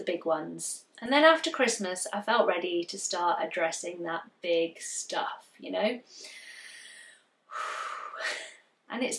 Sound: deep breath

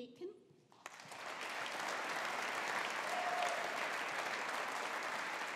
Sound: audience applauding

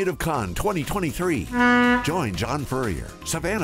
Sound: horn blaring

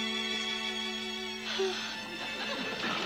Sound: sighs

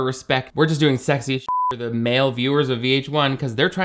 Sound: beep

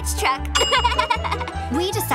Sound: laughing

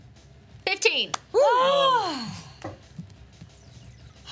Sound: group cheers

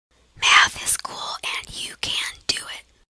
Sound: whispering

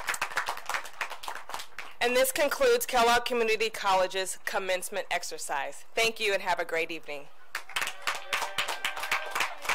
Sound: applause

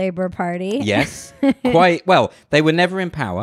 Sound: laughs loudly

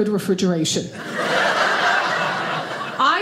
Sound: audience laughing

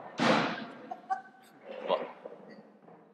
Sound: laughter

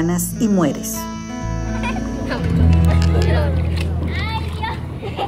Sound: giggles

